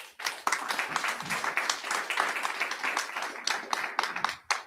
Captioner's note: audience applauding